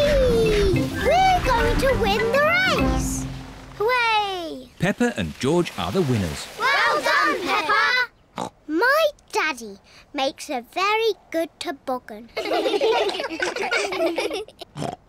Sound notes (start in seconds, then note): 8.7 snorts; 12.4 all laugh